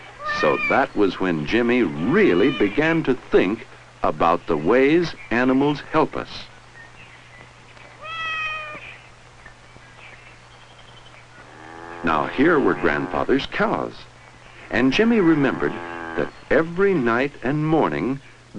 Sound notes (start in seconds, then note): 8.0 kitten meows